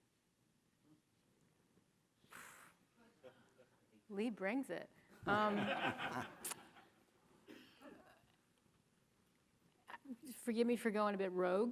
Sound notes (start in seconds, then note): 2.3 blows air through lips; 5.3 audience chuckles